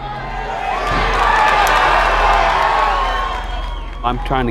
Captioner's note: crowd cheering